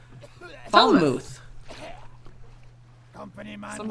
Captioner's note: caughing